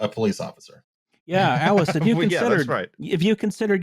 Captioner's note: laughs